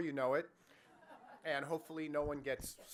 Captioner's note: audience laughs